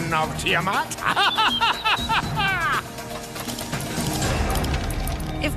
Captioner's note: laughing